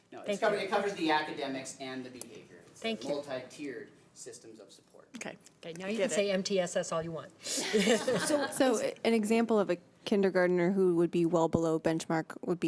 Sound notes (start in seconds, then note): 7.5 laughter